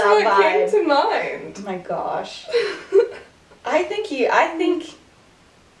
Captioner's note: laughter